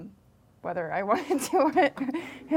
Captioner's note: laughing